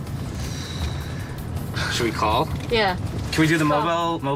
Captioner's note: sighs